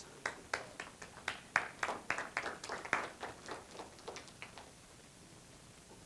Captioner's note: applause